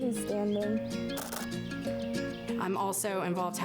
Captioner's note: camera clicks